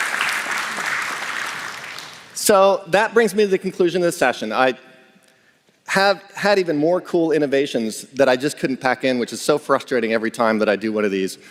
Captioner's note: applause